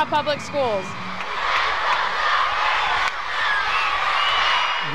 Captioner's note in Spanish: Estudiantes vitoreando “LET'S GO SHOCKERS” – El bate se conecta con el béisbol